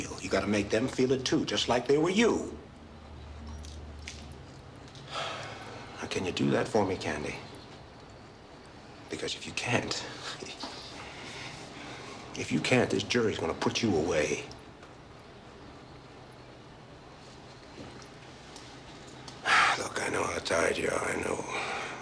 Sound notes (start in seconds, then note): 5.0 sighs